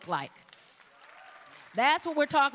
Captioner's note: applause